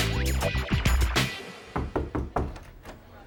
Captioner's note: knocking